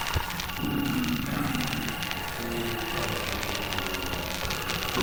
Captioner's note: zombies groaning